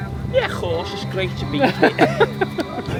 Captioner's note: speaks in accent; laughs